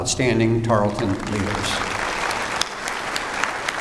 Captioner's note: applause